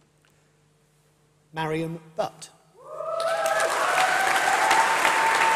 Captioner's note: applause